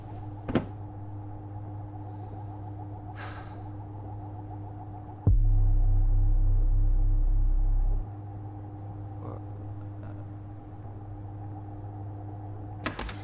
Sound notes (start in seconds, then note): 3.3 sighs; 5.4 ominous tones; 12.8 door opens; 13.0 crickets chirp